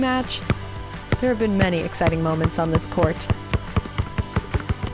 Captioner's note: basketball dribbling